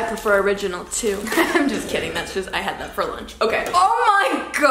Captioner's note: laughs